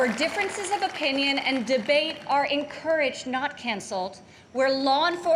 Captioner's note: applause